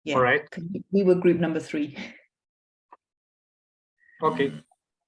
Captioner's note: chuckles